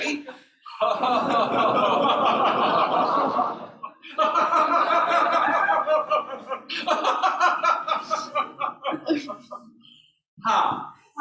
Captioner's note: laughter